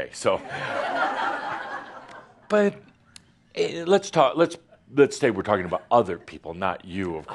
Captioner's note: laughter